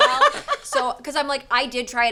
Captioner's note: laughs